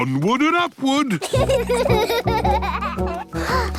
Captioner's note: children giggling; panting